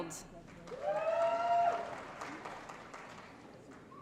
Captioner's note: applause & Cheering